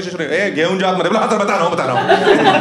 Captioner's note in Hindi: मराठी में बोलता है; हँसना